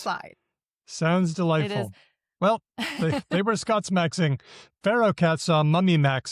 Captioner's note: chuckles